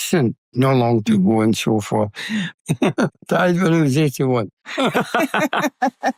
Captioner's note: laughs